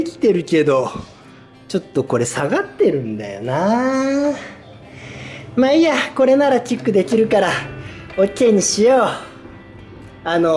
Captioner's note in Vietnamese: cười